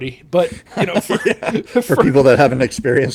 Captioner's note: laughing